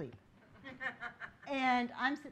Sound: laughing

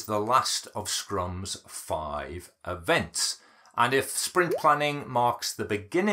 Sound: bubble popping

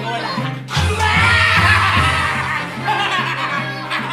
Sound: screams

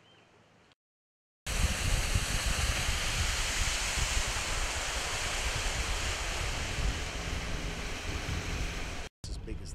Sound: boat motor

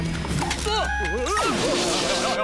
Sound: moaning

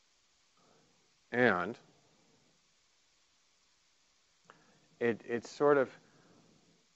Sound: sighing

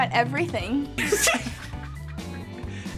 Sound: laughing

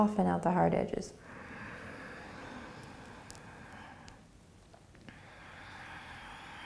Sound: breathing

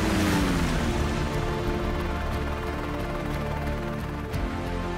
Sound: blades whirring

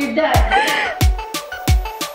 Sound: laughing; upbeat music

